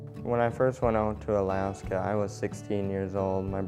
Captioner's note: voiceover